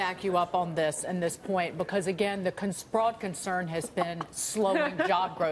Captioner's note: laughter